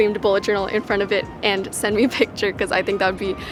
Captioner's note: laughs